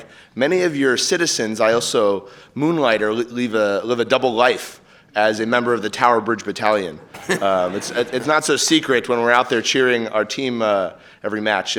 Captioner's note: applause